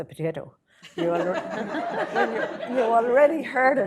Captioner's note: laughter